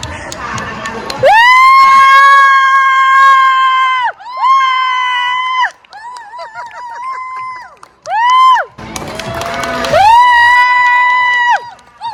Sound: applause; scream

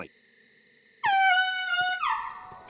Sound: seal barking

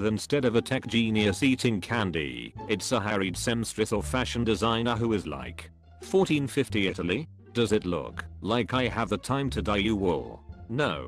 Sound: The Daniel voice reads the Tumblr post

